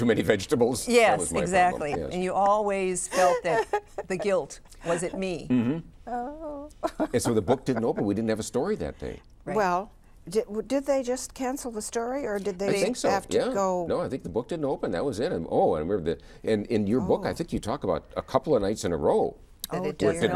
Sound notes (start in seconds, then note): 6.2 laughs